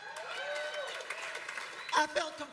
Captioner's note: cheers and applause